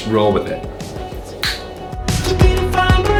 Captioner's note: snaps; club music